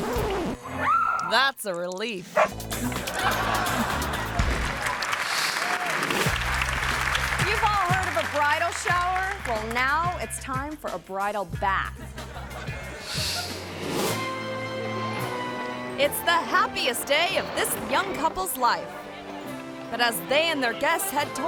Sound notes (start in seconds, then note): 0.0 record scratches; 0.1 talent yells; 2.3 dog barks; 2.8 audience laughing; 4.0 hands clapping; 4.9 audience cheering; 12.0 audience laughing; 12.1 graphic whooshes; 13.7 ceremonious music